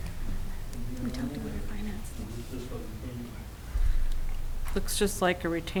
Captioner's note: whispering